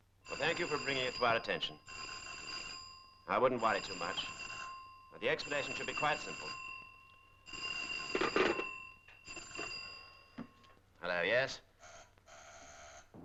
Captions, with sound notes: Well, thank you for bringing it to our attention. I wouldn't worry too much. The explanation should be quite simple. [phone ringing] Hello? Yes.